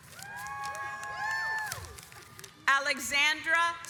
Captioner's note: audience applauds